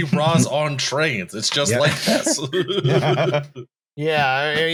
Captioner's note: laughs